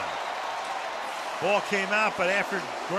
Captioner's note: cheering